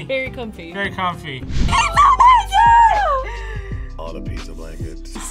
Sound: gasps

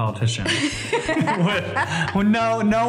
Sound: laughter

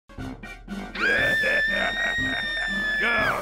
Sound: screaming

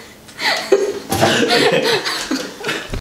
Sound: all crack up laughing

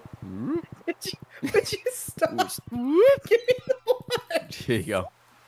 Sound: cackling

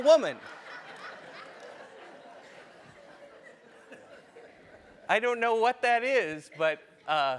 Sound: laugh

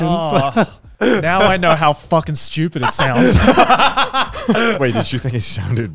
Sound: laughing

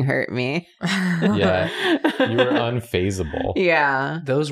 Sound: laughs

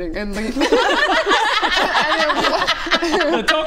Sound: impressed laughter

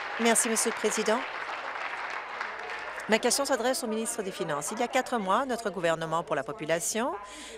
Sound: applause

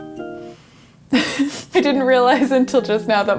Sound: laughs

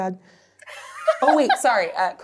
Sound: laughs

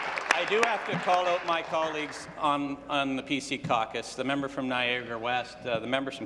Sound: applause

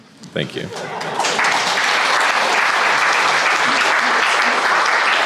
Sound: crowd applauding

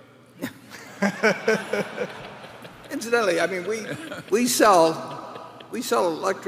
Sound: laughter

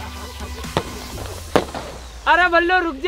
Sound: crackling sound

